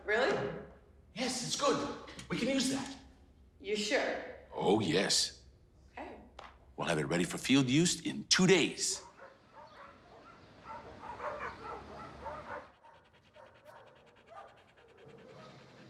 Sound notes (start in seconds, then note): 2.0 laughs; 9.0 barking; 13.2 dog panting